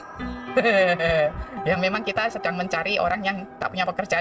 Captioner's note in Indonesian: tertawa